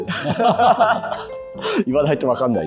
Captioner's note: laughing